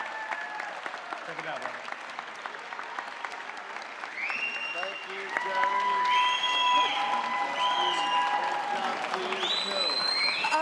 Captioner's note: audience applause